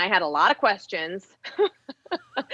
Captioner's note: laughs